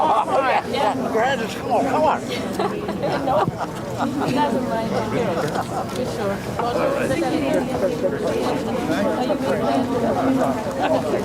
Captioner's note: crowd chatter